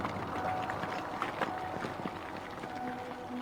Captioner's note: rocks collapsing; peaceful music